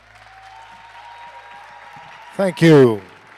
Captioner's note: attendees cheering